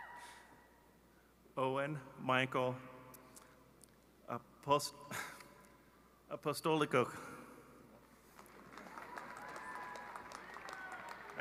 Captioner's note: cheerg anapplause